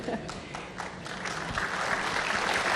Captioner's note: applause